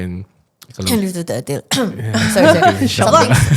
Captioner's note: cough